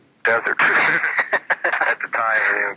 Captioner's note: both laughing